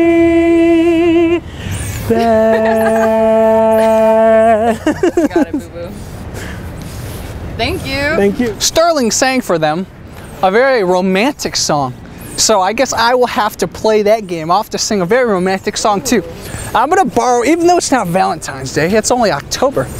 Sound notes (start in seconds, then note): 4.9 laugh